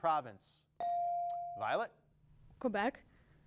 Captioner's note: bell dings